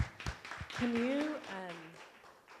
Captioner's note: applause